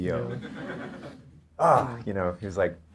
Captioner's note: audience laughter